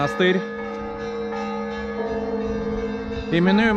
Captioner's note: bells ringing